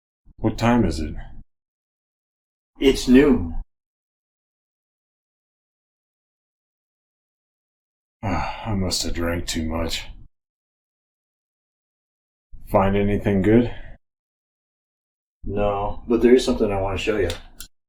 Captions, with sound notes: What time is it? It's noon. [long silence] I must have drank too much. [silence] Find anything good? No, but there is something I want to show you.